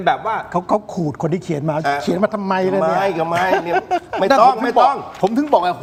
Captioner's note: laughter